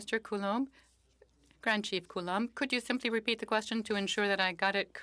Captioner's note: speaking French